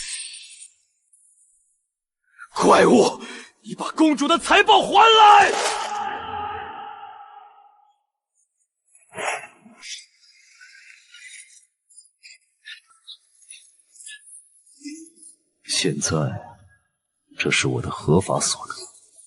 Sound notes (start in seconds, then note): 9.1 snort